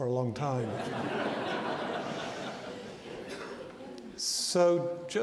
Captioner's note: audience laughing